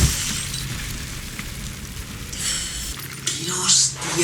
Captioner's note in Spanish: crash de fondo